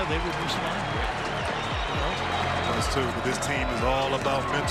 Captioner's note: crowd cheers